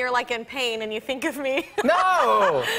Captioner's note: laughs